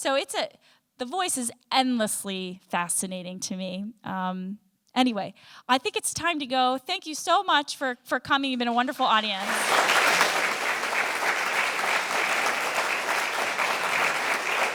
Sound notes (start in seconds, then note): 9.3 applause